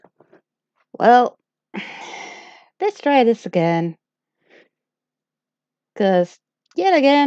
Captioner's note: sigh